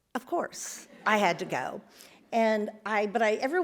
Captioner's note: audience laughs